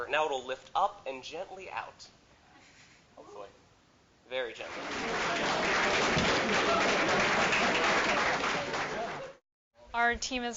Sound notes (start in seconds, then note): 4.5 applause